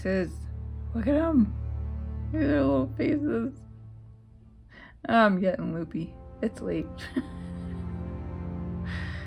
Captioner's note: laugh